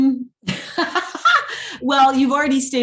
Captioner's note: laughs